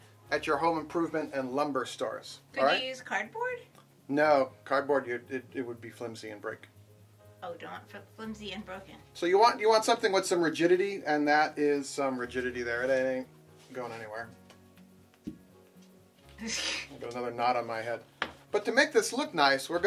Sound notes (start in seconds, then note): 15.2 laughs; 15.2 quiet thud